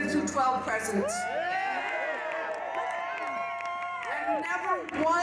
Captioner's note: crowd cheers